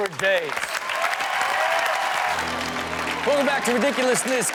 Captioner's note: audience cheering and clapping